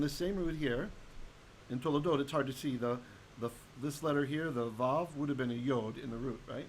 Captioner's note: Hebrew